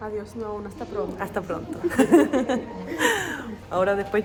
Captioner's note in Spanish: risas